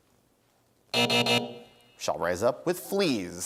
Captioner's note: buzzer sounds